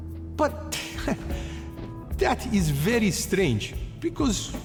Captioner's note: laughs